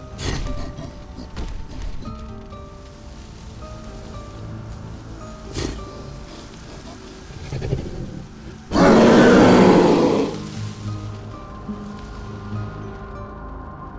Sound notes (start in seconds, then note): 0.2 grunts; 5.4 sniffs; 8.8 roars